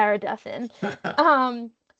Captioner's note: chuckling